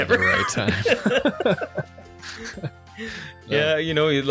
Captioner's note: both laugh